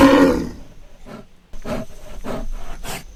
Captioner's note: bear roaring; bear panting